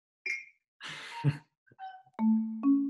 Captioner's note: laughs